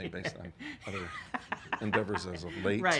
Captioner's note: laughs